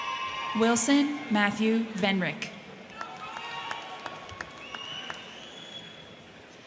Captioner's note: crowd cheering